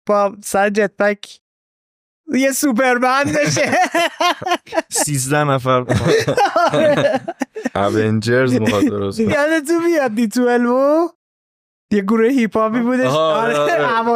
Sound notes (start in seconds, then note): 3.2 laughs